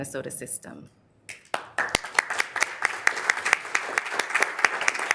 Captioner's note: members applauding